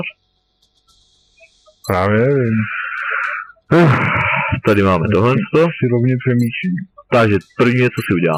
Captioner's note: sigh